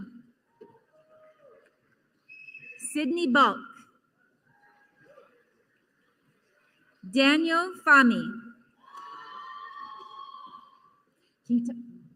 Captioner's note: applause